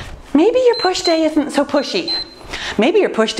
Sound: timer beeps

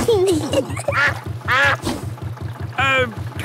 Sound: kids giggling; level clangs; quacks

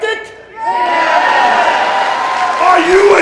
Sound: cheering

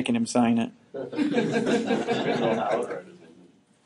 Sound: students laughing

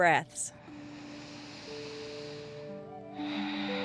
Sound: inhaling and exhaling

